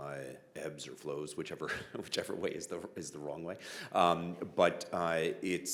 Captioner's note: chuckling